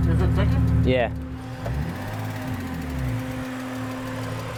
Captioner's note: engine ticking